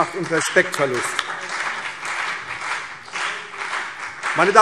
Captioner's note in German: Beifall CDU und BÜNDNIS 90/DIE GRÜNEN